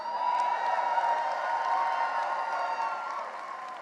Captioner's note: cheering and applause